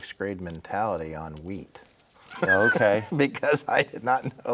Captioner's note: laughing